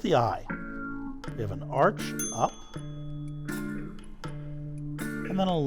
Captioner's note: bell dings